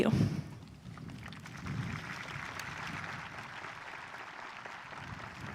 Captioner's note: audience applauding